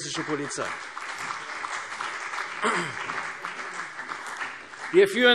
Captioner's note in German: Beifall CDU und BÜNDNIS 90/DIE GRÜNEN